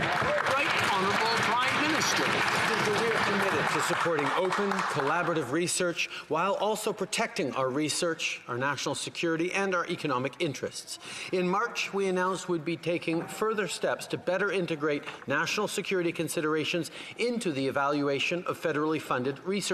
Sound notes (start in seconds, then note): 5.1 some Applause